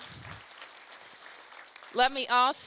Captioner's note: applause